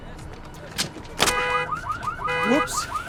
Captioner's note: car alarm sounding